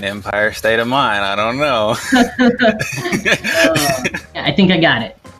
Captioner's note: everyone laughs